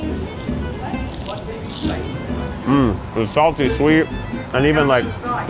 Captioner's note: crunching; lively upbeat music